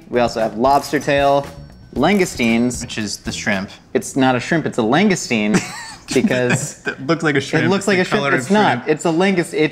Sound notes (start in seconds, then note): 7.4 laughs